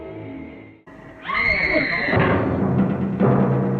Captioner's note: scream